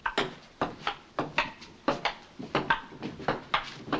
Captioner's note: table tennis ball bouncing